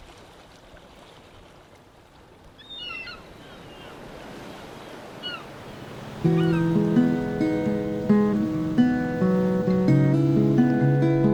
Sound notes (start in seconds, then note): 2.2 waves lapping, seagulls; 6.0 acoustic Cover